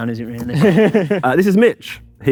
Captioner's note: group laughs